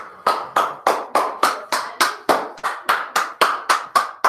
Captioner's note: clapping loudly